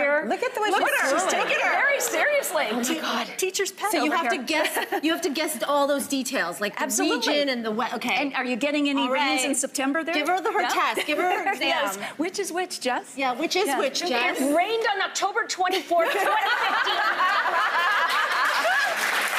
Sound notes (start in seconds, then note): 16.1 laughing